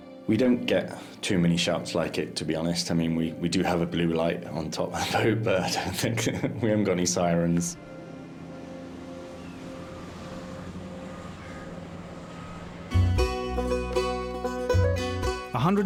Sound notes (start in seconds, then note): 7.8 birds cawing; 10.6 boat purring; 12.9 upbeat music